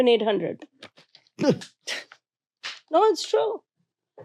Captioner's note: scoffing